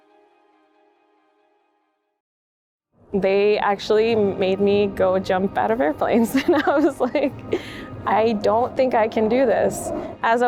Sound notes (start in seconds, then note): 6.3 chuckles